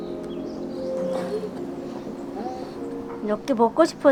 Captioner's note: crying